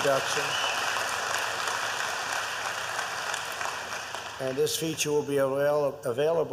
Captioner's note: applause